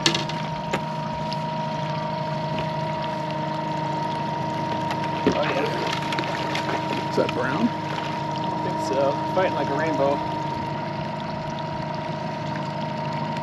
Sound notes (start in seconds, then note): 0.0 boat engine idling; 6.9 fish splashing